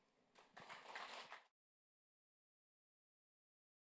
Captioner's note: applause